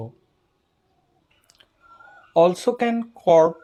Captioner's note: muted